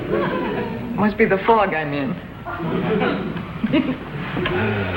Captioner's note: giggles